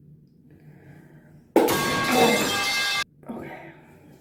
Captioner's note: metal pipe sound effect